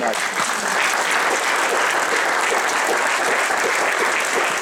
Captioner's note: applause